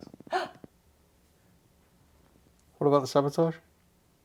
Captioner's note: gasps